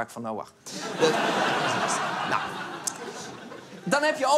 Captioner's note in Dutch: Gelach